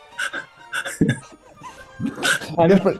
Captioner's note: laughing; giggling